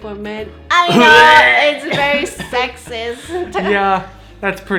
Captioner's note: gags